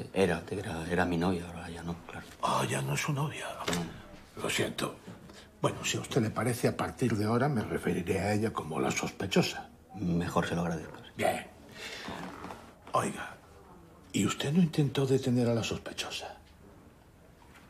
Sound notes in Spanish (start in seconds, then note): none